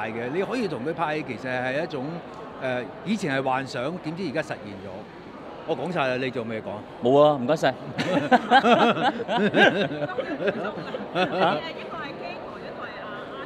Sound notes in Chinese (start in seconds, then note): 7.9 哈哈